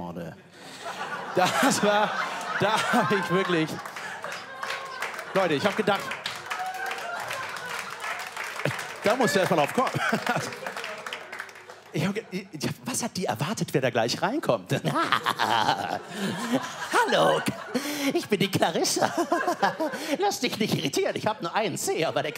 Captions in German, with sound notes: Da habe ich ... Ich habe gedacht ... *Applaus* Da musst du erst mal drauf kommen. Was hat sie erwartet, wer da kommt? "Hallo! Ich bin die Clarissa. Lass dich nicht irritieren, ich habe nur einen Zeh.